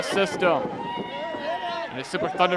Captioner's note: crowd cheering